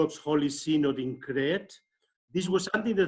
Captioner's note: speaks in foreign language